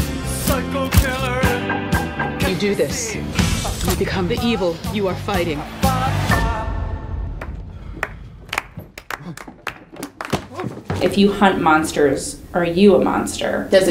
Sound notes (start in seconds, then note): 8.4 clapping